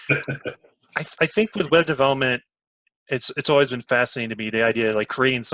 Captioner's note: laughs